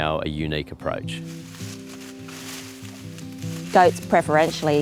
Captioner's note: leaves rustling